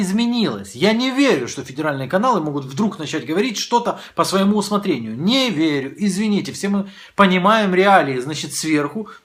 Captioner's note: Russian